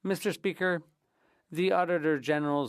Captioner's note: speaking French